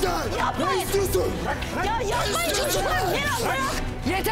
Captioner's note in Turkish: kavga sesleri̇